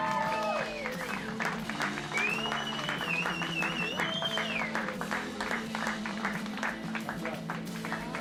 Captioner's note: cheering